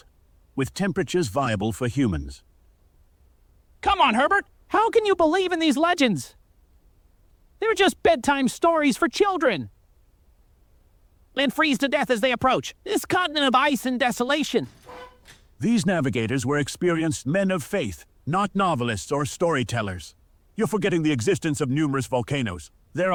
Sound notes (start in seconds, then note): 14.5 chair noise